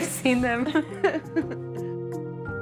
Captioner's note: laughs